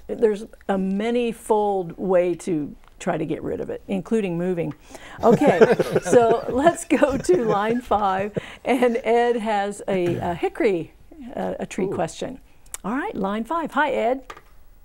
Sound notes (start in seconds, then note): 5.1 laughing